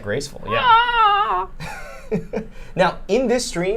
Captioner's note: whines; laughing